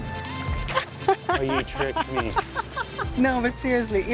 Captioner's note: laughs